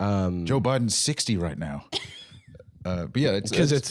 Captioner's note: laughing